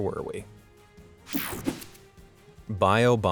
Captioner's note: air whooshing